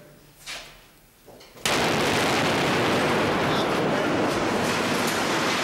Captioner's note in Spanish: explosión